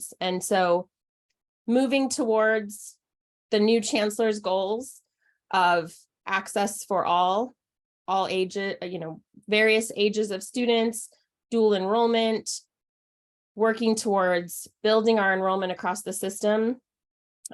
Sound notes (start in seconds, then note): none